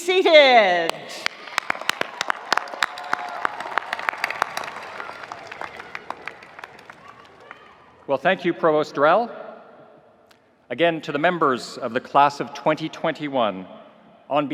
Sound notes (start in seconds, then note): 1.0 audience applauding; 1.2 audience cheering